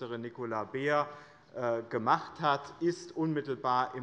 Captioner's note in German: Heiterkeit des Abg